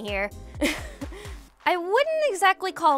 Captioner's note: laughing